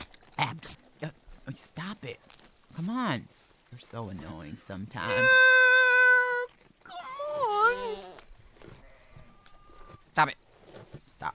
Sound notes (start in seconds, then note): 8.2 bleating